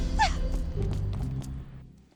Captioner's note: footsteps